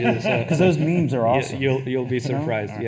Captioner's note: attendees laughing